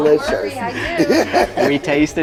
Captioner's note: laughs